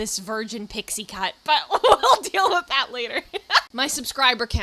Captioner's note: laughing